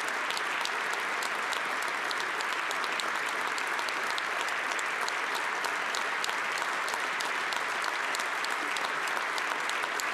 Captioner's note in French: applaudissements